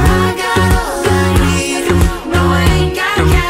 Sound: echo

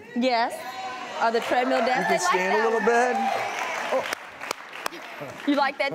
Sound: audience cheers and claps

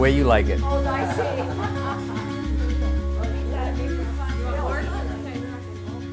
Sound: family talking and laughing; uplifting music

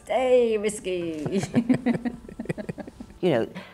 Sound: both laugh

